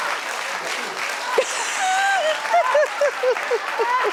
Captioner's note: laughs